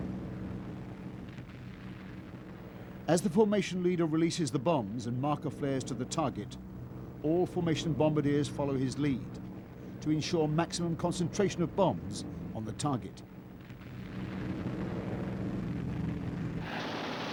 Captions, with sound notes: As the formation leader releases the bombs and marker flares to the target, all formation bombardiers follow his lead to ensure maximum concentration of bombs on the target. [RUMBLING, GUNSHOTS]